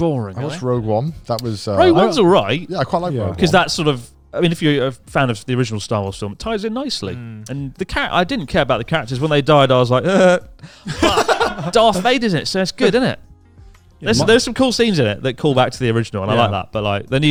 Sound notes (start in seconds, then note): 10.0 and announcer laughs; 10.0 chuckling